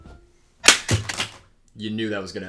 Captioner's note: hammer smash